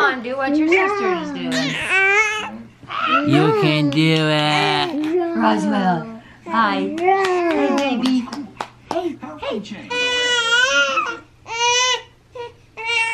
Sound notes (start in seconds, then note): 1.6 cooing; 9.9 crying